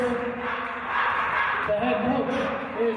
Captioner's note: CUNY players chanting